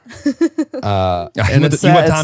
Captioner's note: laughing